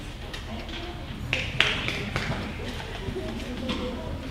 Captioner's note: clapping